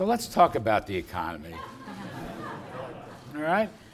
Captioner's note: laughter